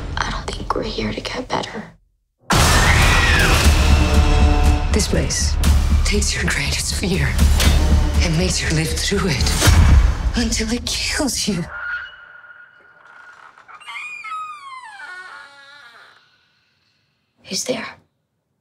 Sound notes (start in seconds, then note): 2.6 screams; 13.8 creaking